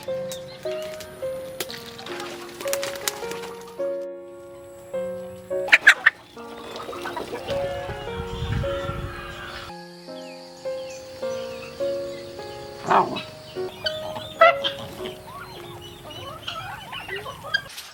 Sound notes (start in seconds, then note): 0.2 birds chirping in the peaceful countryside; 2.7 fire crackling under the traditional stove; 5.2 chickens clucking in the backyard farm; 10.2 wind blowing through the banana leaves; 13.7 geese honking softly on the grass